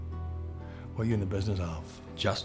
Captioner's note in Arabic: لهجة اسكتلندية